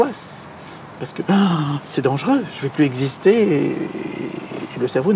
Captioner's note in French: halètement